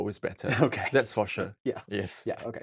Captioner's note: laughing